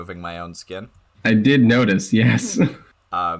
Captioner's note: chuckling